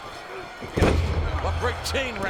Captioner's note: body thuds